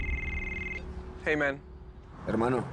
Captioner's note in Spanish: Suena el celular